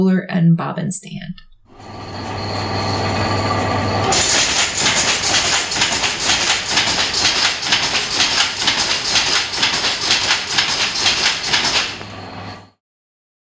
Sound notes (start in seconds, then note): 1.6 machine noises